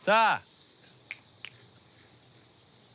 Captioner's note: finger snaps